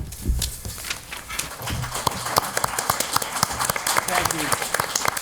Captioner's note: applauding